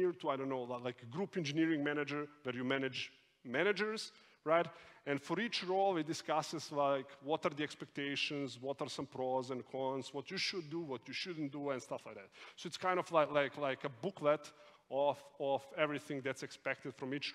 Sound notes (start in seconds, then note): none